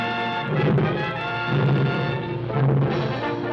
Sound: lion roaring

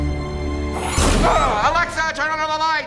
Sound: father screams

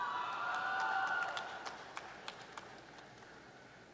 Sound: applause

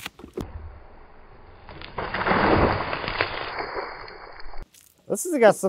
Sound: water splashes

